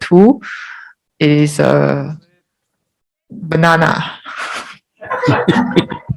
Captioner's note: laughs; audience laughs